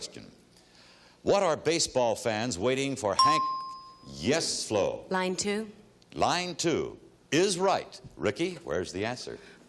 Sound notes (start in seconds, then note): 3.2 bell dinging